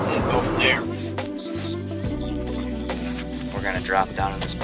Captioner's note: crickets chirring